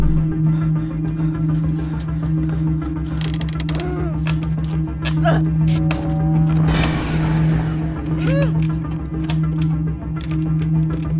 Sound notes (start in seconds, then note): 2.7 wood creaking; 5.2 Sandra grunting